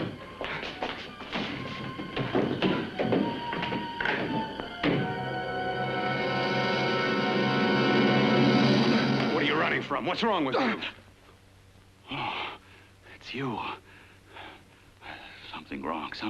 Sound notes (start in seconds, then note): 0.0 scrambling footsteps; 0.0 ominous music; 4.8 door closes; 5.9 suspenseful music